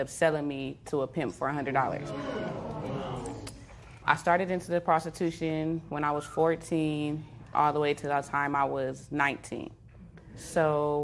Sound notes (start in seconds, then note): 2.1 spectators murmur